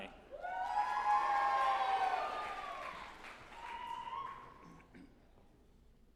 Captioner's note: group applauding and cheering